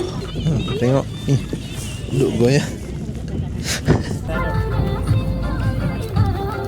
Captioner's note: laugh